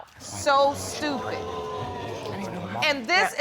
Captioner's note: audience exclaims